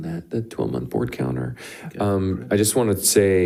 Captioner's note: speaks faintly